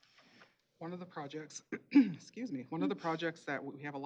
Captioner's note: clearing throat